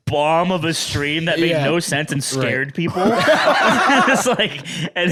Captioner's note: laugh